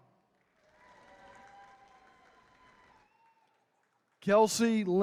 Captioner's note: attendees cheering